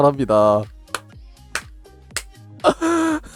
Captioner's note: clapping